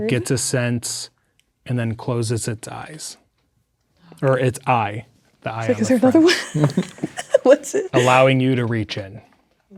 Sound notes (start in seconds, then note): 5.8 laughing